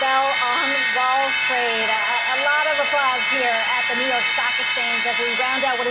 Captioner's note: bell ringing